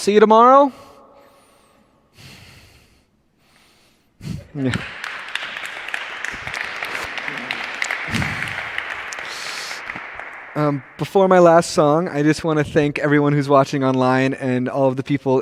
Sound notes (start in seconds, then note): 4.4 applause